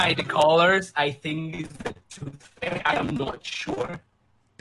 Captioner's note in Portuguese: falando bugado